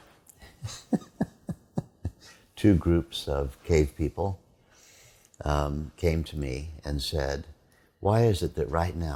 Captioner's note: laughter